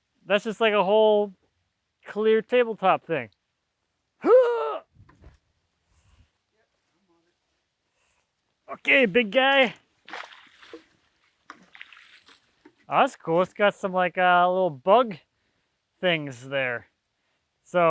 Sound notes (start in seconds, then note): 4.2 heaving; 8.8 water sloshing